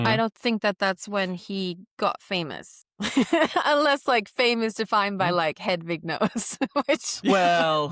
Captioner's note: laughs